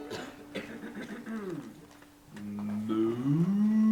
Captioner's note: clearing throat